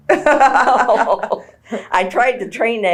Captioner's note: laughter